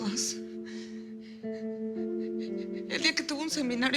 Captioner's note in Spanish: Sollozos